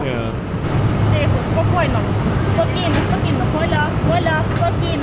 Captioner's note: speaking in foreign language